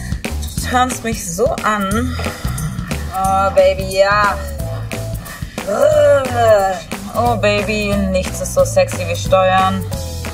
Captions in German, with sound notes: du turnst mich so an. Oh, Baby, ja! (Sie knurrt.) Oh, Baby, nichts ist so sexy wie Steuern.